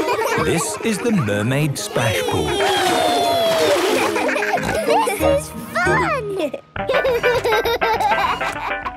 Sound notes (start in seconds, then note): 0.0 giggling; 4.0 giggles, snorts; 6.8 giggling